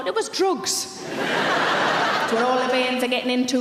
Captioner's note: audience laughs